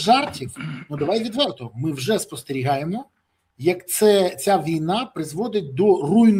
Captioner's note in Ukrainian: прочищення горла